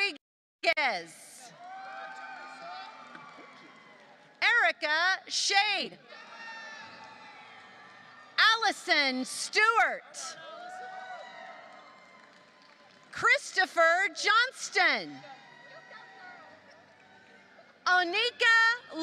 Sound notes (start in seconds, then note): 1.6 applause; 6.4 applause; 10.7 applause; 15.0 applause